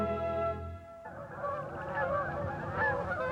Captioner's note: geese honking